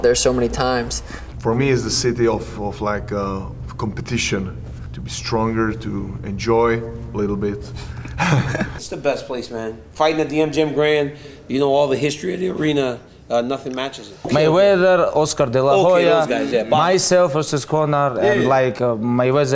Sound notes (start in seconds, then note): 7.8 laughs